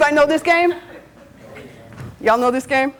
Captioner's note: students chatting